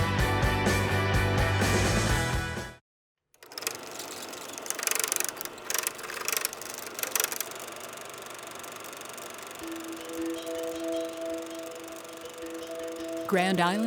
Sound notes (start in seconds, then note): 3.4 projector clicks; 9.6 mysterious music